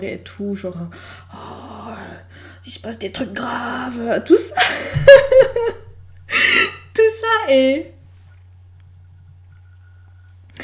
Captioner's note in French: prend une voix grave; glousse